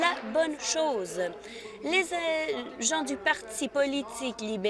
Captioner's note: applause